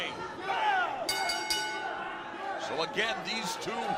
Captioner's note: bell ringing